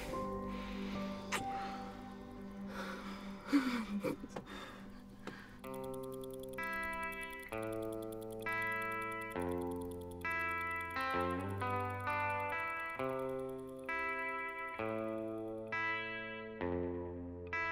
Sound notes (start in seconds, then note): 3.5 Marie laughs; 5.4 watch ticking